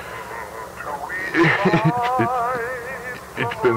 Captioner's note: chuckles